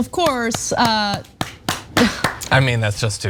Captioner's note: applause